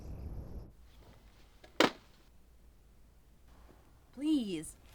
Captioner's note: boxes thudding